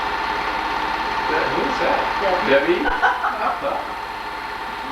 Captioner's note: laughing